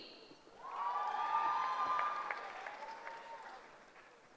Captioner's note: cheering